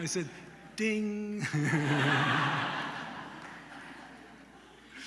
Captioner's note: laughter